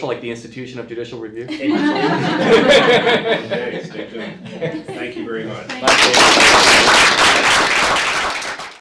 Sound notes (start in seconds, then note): 1.5 audience laughs; 5.6 audience applauds